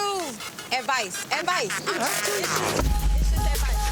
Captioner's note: overlapping chatter